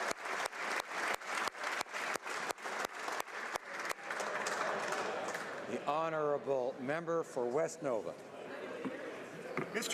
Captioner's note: applause